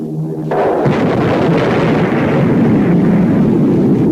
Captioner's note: explosion booming